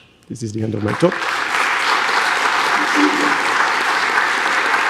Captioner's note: audience applauds